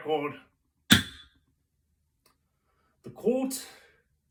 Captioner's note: gavel